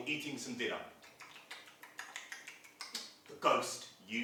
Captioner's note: sound of eating